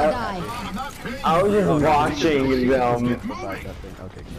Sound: speaking gibberish

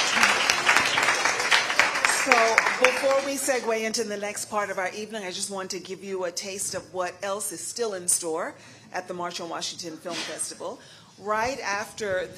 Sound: applause

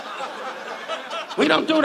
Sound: audience laughs

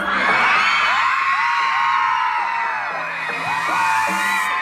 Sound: cheering

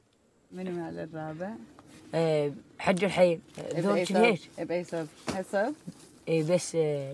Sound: group speaking in foreign language continues

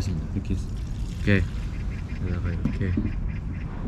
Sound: gurgle

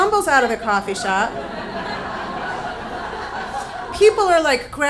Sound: audience laughs

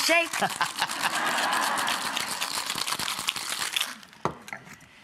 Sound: audience laughing

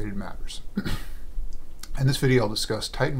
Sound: coughs

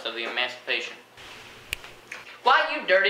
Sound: snap

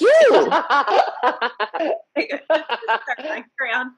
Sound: all laughing

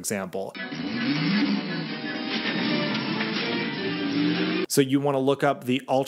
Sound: dramatic music; car zooming

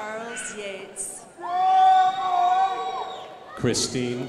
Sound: crowd applauding

